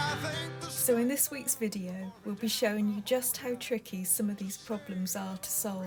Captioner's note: voiceover